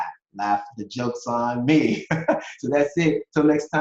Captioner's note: laughs